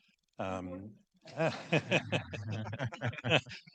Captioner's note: laughs; students laugh